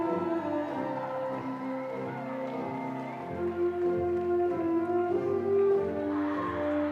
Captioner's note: audience cheering; audience applauding